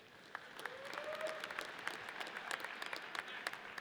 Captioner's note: audience cheers